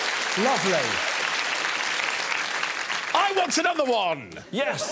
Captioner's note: audience applauding